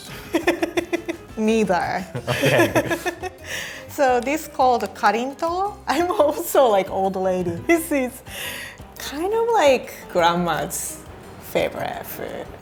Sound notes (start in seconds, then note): 0.2 laughing; 4.6 speaking in foreign language